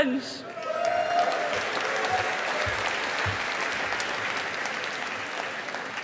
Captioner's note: audience applauding